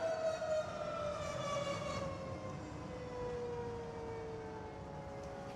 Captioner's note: sirens wailing